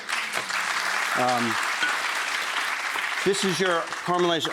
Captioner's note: audience clapping